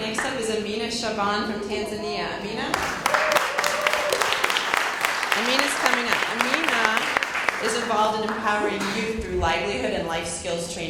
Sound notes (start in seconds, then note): 2.7 cheers and Applause